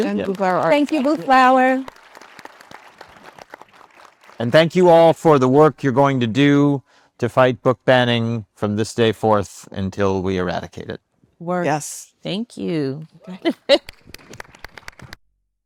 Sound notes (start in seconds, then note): 2.1 attendees applauding; 13.2 laughs; 13.8 attendees applauding